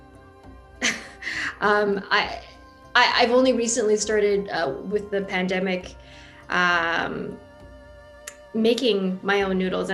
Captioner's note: chuckles